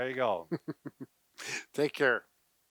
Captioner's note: chuckling